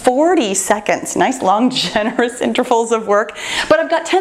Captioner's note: laughing